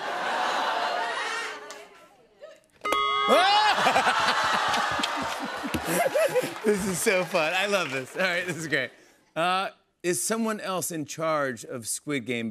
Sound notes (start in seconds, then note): 0.1 laughter; 3.3 laughs